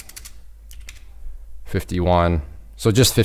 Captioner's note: keyboard clicking